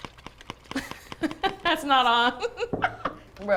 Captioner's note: laughs